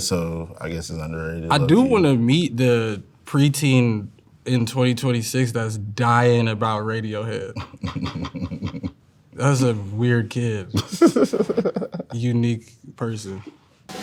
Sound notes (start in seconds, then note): 7.6 laughs